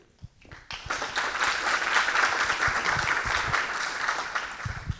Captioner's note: audience clapping